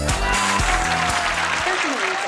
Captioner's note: audience cheering